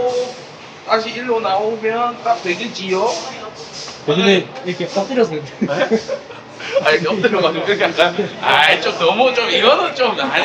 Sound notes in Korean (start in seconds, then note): 5.4 웃음